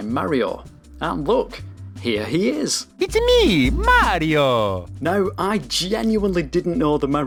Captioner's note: Mario sound effect